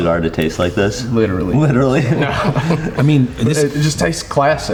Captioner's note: laughs